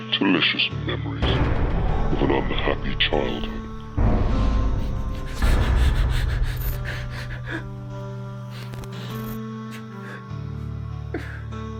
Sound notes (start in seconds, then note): 5.2 Alan crying; 5.2 screen crackling; 9.0 somber music